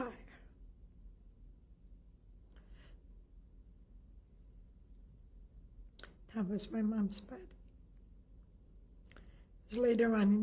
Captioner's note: pauses for 6 seconds